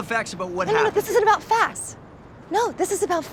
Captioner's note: none